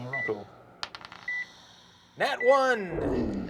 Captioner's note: die rolls